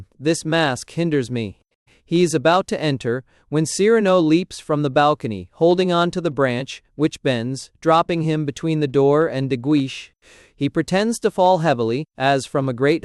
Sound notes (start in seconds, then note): 3.9 sitting up, and speaking with a Gascon accent